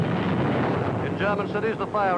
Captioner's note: explosions boom